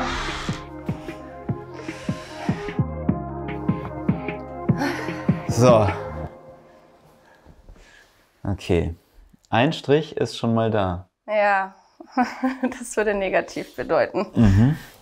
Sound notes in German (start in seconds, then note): 0.9 Ruhige Musik; 4.7 seufzt; 11.8 lacht